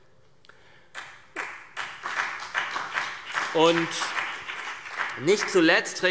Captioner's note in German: Beifall CDU und BÜNDNIS 90/DIE GRÜNEN